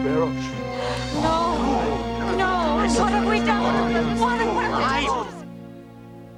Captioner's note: groaning